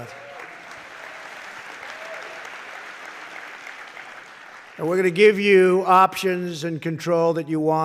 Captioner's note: applause